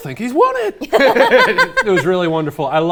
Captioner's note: laughing happily